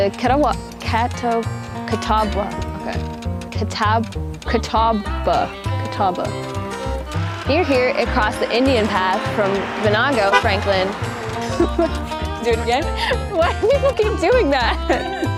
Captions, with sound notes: Qeta-wa... Cata... Cata-bwa. Okay. Cata... Cata-bwa... Catawba. Near here it crossed the Indian path from Venango, Franklin. (load car horn) Do it again? Why do people keep doing that!